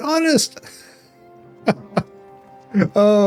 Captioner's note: laughs